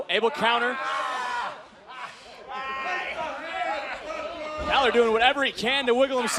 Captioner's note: crowd chatter